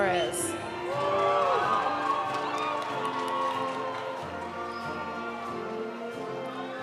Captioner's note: audience applauding; audience cheering